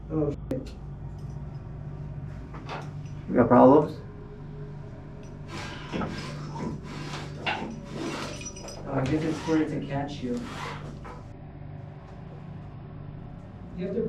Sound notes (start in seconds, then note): 5.2 metal clanking; 5.4 rope scraping; 11.2 eerie music